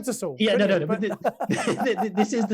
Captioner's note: laughing